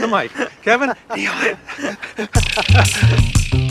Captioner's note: laughs; whispers; beats play